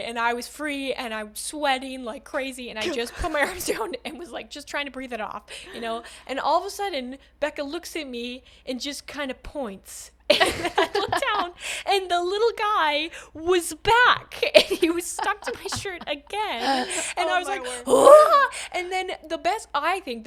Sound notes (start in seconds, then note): 17.6 crazy Scream